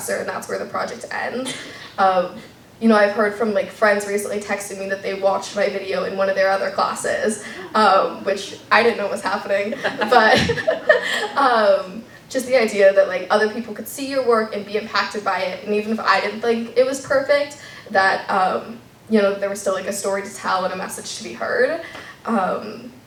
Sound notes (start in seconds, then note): 9.6 laughter